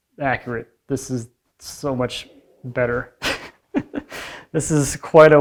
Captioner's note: chuckles